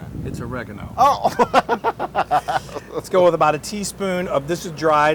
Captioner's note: laugh